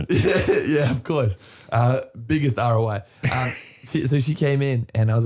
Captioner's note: laughing